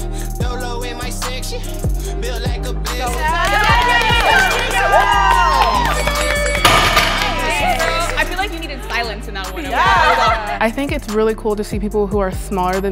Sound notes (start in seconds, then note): 1.9 upbeat music; 3.0 encouraging cheers; 6.0 bell dings